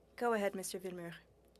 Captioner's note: speaking french